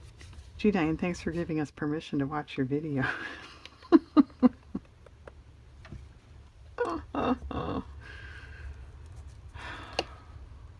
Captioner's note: laughs